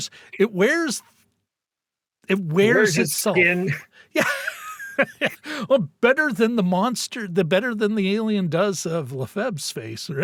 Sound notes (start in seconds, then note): 4.2 laughing